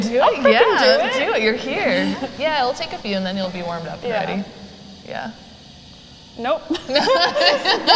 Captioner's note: laughs